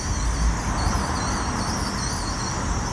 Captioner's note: none